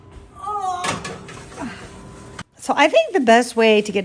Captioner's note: grunts